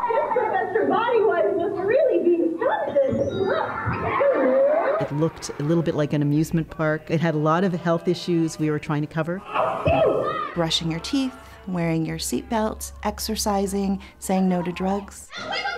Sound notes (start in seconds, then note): 3.0 audience laughter; 9.8 character sneezes